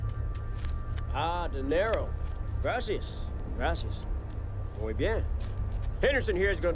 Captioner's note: speaks Spanish